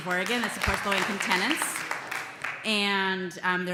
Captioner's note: applause and cheering